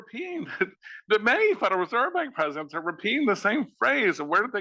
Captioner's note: laugh